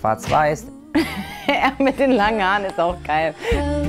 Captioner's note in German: lacht